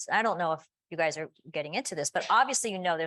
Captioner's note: none